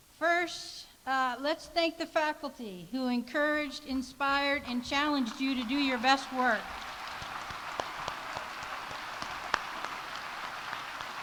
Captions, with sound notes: First, let's thank the faculty who encouraged, inspired, and challenged you to do your best work. (audience applauding)